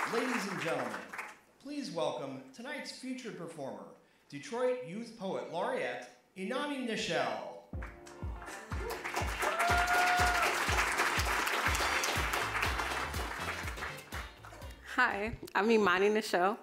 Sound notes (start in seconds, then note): 7.8 applause; 8.3 upbeat music